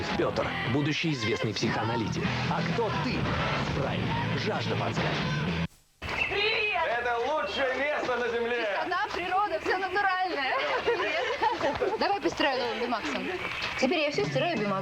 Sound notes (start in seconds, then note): 10.4 laughter